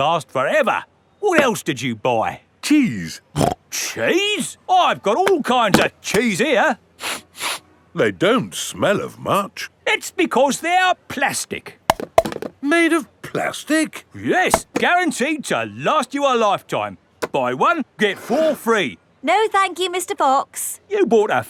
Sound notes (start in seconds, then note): 3.4 snorts; 7.0 sniffs; 11.9 clunks